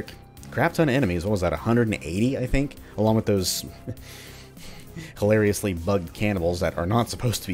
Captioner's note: chuckles